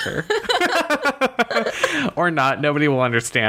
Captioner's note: laughs